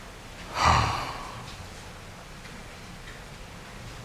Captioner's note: sighs